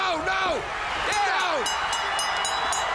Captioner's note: bell ringing